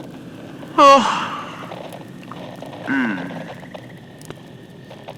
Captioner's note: yawns